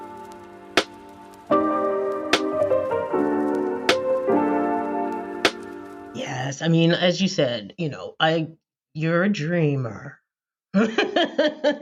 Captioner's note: laughter